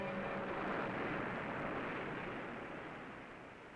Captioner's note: waves lapping